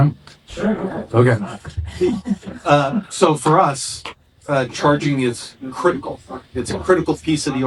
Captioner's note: chuckles